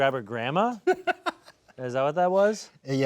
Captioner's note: laughing